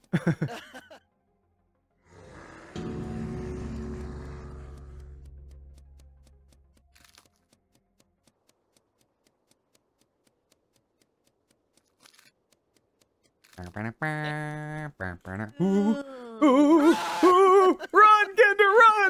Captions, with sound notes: (growling) (humming) - Ooh, ooh, ooh, ooh! Run, Kanda, run!